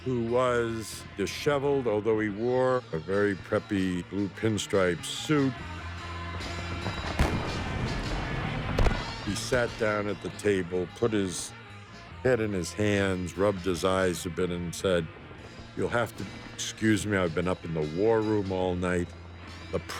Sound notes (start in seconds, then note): 5.8 rock music; 6.8 guns firing